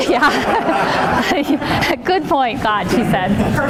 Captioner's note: laughing